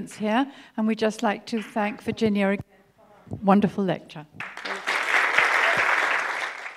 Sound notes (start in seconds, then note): 4.4 applause